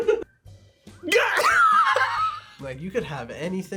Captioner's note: laughs